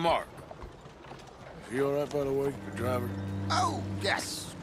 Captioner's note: whispers